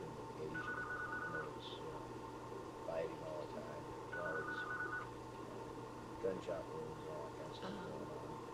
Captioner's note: telephone rings